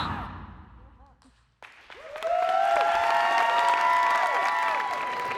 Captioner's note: audience cheers